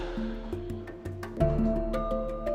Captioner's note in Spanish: Suspiros